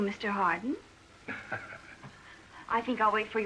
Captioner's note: laughs